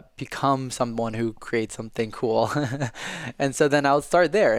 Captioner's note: laughing